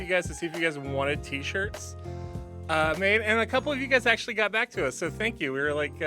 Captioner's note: none